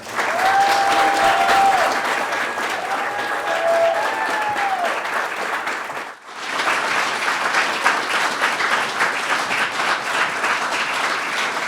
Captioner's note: applause